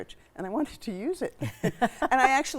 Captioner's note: chuckling